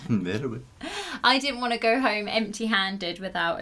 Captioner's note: laughter